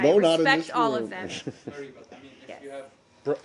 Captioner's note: laughter